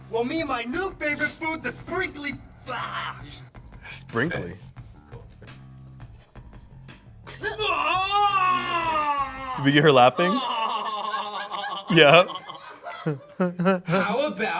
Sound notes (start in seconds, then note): 7.4 screams